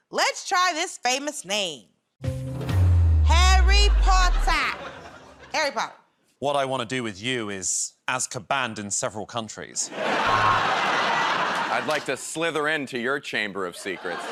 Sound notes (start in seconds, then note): 9.8 laughter